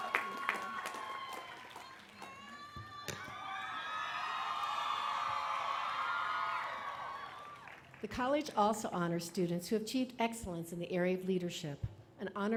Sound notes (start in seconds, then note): 6.1 applause